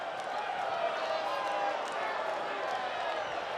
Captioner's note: crowd cheering